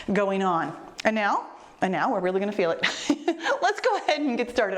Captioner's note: laughs